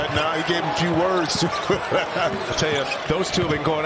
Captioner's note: laughter